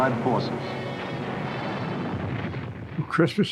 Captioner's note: dramatic music; bombs exploding